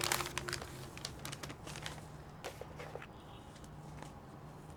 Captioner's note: paper rustling